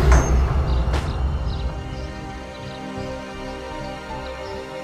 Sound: birds chirping

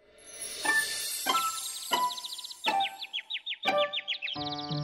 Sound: birds chirping

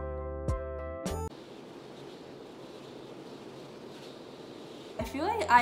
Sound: wind Blowing

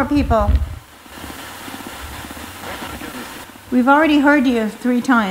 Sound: spirit box crackling

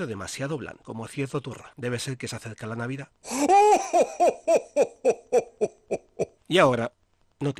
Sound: sound of Santa laughing

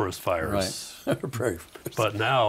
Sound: laughing

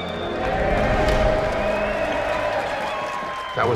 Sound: crowd cheering

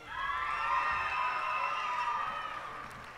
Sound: cheers and applause

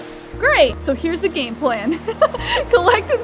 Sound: laughs

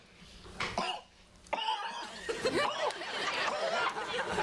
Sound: coughing

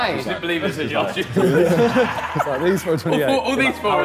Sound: all laughing

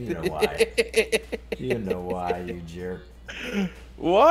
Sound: laugh

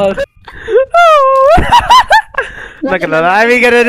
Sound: laughing

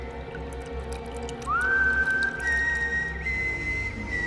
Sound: whistling; music intensifies

